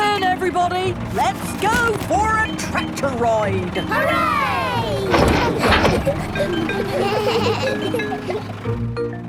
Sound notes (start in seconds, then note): 4.2 giggles; 7.1 bleating